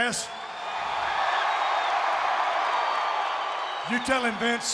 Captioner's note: audience cheering